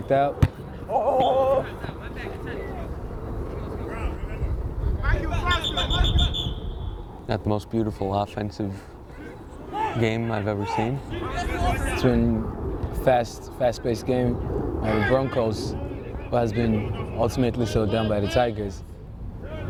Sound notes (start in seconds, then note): 5.4 whistle